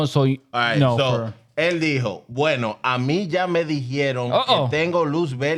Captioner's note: speaking In Foreign Language